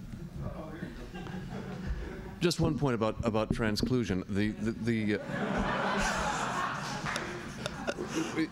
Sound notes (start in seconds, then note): 1.0 laughter; 5.2 laughter